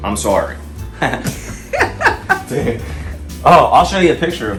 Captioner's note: laughs